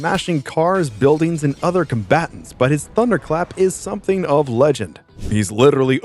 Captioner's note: thunderclap